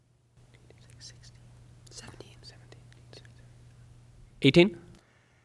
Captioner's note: indistinct conversation